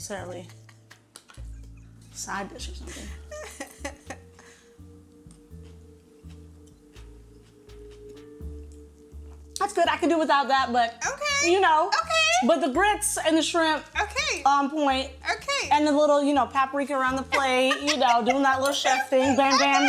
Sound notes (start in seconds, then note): 2.9 Angela chuckles